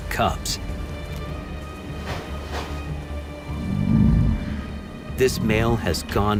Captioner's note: light dramatic music; bear grumbling